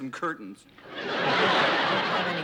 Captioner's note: laughter